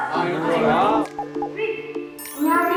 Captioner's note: TV suddenly turns on